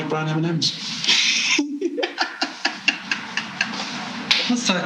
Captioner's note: laughing